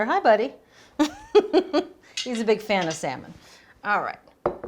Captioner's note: laughs